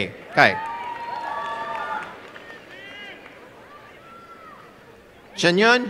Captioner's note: applause and cheering